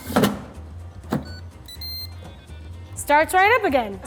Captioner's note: beeping